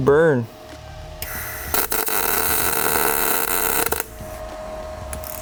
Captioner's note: tool sizzling